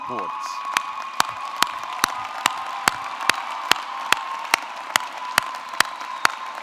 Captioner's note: audience cheering; audience clapping